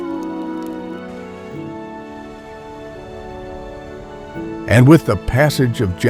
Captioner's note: howling